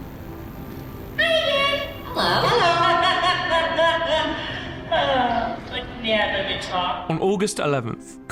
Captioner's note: laughter